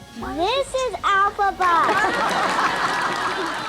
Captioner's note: laughter